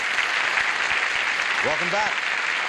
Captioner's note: applause